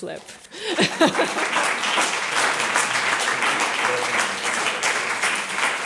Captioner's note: laughs